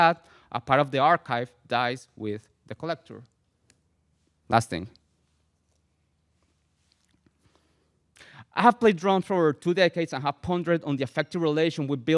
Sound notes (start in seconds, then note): none